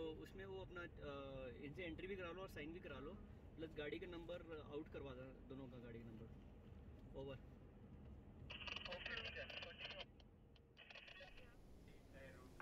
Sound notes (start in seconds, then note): 8.6 wireless crackle